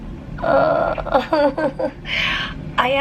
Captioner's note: weakly chuckling